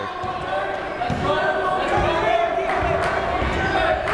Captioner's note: yelling